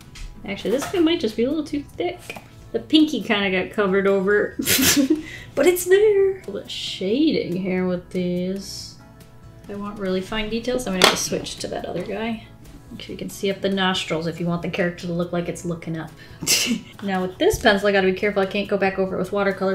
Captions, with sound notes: Actually this thing might just be a little too thick. The pinkie kind of got covered over [Laughs] but it's there! Let's shade in here with this. If I want really fine details, I'm going to switch to that other guy. Okay, you can see if the nostrils if you want the character to look like it's looking up. [Laughs] Now with this pencil, I gotta be careful, I can't go back over it with watercolor